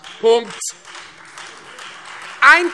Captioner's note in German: Beifall Freie Demokraten und vereinzelt AfD